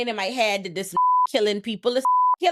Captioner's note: beep